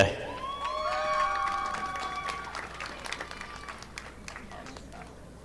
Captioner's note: audience applauding